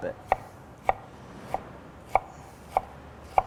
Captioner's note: chopping